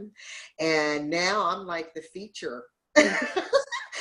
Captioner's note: laughs